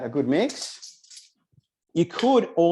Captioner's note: tongs rattling